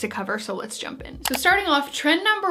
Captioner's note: clicking